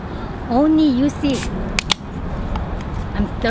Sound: tab pops

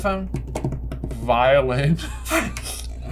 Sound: laughter

